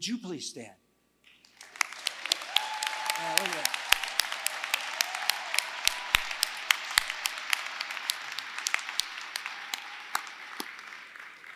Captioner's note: applause